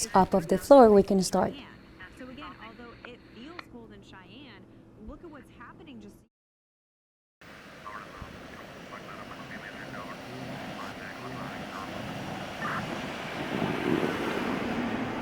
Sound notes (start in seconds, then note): 7.9 chattering on radio